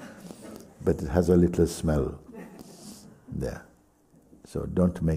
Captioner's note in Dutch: snuft